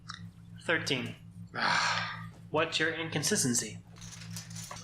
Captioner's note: sigh